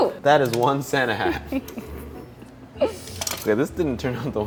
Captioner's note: chuckling